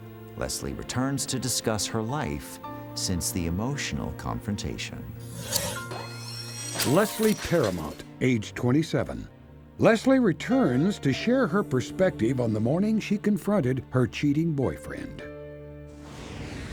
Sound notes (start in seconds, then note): none